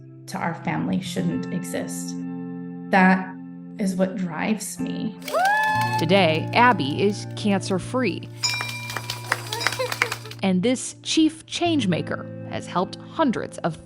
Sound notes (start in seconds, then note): 5.2 group celebrating; 8.3 bell ringing